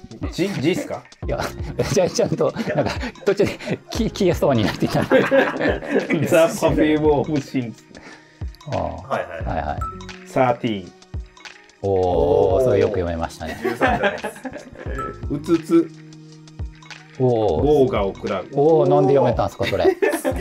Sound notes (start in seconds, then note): 4.6 laughing